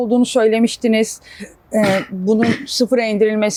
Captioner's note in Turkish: boğazını temizler